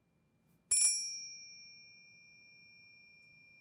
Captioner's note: bell ringing